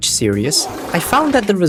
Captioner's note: fartttt